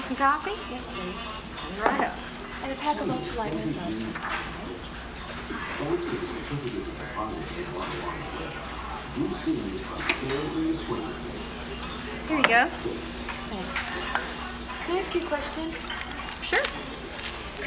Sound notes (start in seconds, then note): 6.0 man on TV